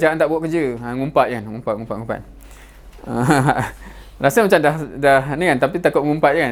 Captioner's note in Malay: ketawa